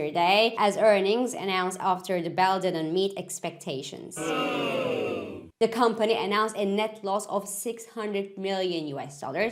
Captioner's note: disappointed crowd